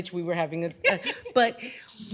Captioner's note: laughter